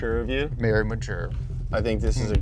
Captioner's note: back thudding